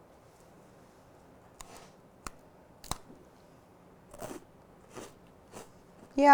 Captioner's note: crunching